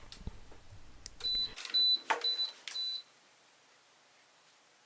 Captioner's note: beeping sound